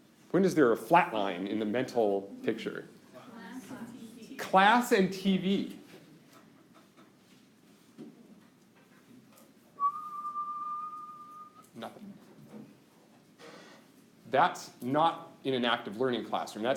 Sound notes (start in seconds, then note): 9.8 whistling